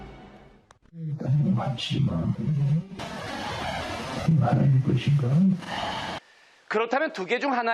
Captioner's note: breathing sound